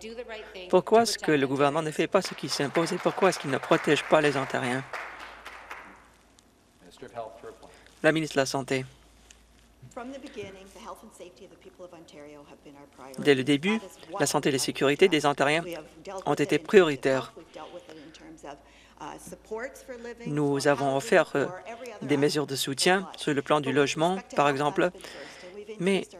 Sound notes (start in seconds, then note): 5.0 some Applause